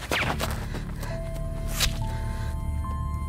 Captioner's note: gun fires; dart whooshing; flesh squelching; dramatic music